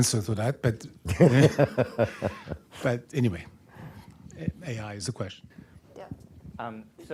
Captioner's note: laughter